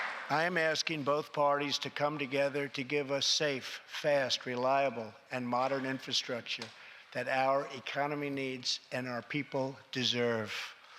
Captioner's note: applause